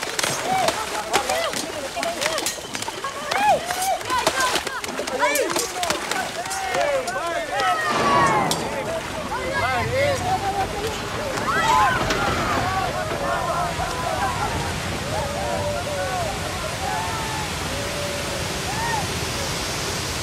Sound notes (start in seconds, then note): 0.0 speaks in a foreign language; 0.2 shouting; 5.6 shouting in foreign language; 11.6 shouting; 11.6 water roars